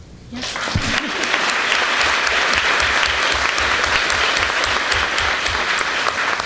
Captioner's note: applause